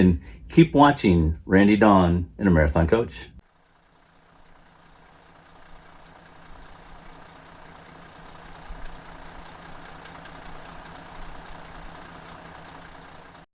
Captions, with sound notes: and keep watching Randy, Dawn and the Marathon Coach. (motor engine running)